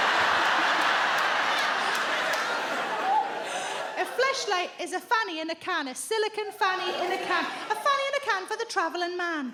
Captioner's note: audience laughs